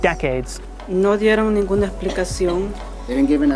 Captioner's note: spanish